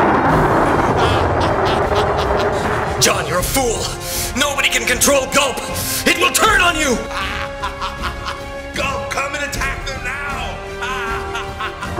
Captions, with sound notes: (Evil laughter.) Jon, you're a fool. Nobody can control GULP! It will turn on you! (Evil laughter intensifies.) GULP, come and attack them now! (Even more evil laughter!)